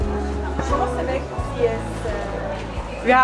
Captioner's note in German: auf Spanisch